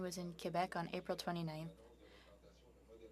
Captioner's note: speaking French